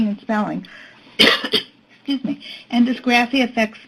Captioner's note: coughs